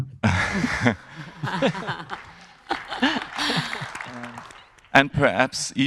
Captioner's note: panelists laughing; audience applauding